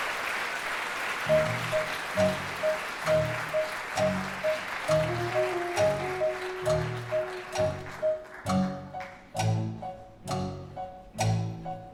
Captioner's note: clock ticking